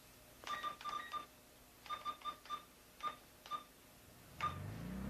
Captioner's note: machine beeping